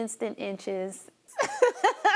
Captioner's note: laughter